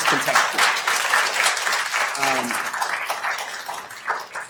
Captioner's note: attendees applauding